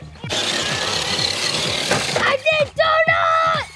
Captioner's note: RC car whining